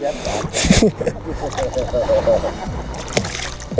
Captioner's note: laughs